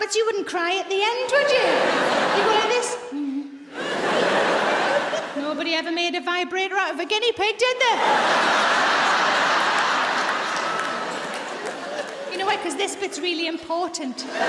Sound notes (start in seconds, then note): 7.9 audience laughs